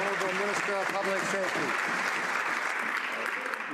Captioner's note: some Applause